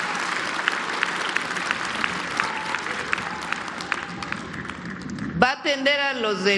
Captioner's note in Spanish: aplausos